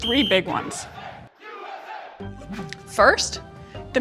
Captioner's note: crowd